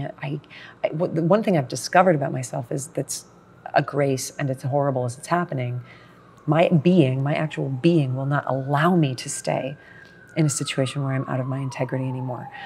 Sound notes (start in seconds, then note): 3.5 sirens in background